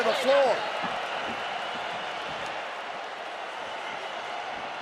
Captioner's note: crowd jeers